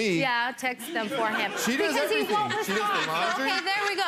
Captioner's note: people laugh